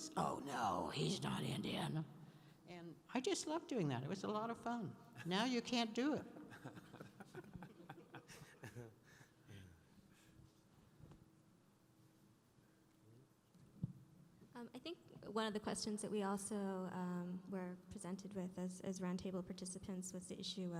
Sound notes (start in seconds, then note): 6.6 laughing